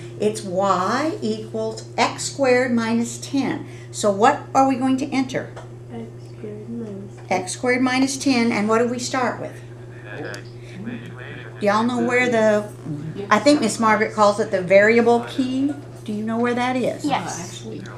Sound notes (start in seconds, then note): 10.9 Electronic voices of calculators